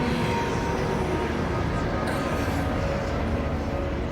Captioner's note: raspy Voice